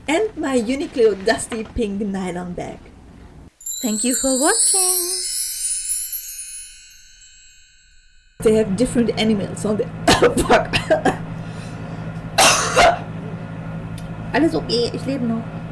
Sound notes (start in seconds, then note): 12.3 cough